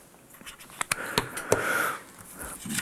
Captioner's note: he sighs